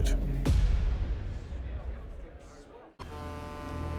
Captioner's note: people chatting